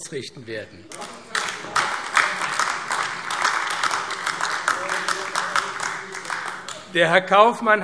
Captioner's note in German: Beifall AfD